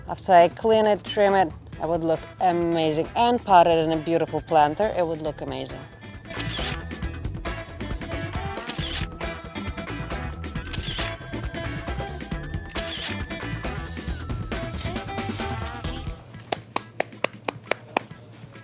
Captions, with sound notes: After I clean it, trim it, it would look amazing, and potted in a beautiful planter, it would look amazing. (camera whirring) (camera whirring) (camera whirring) (camera whirring) (clapping)